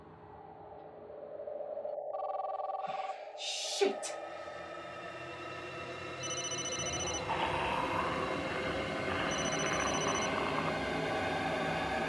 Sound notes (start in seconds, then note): 2.3 phone ringing; 7.6 snarling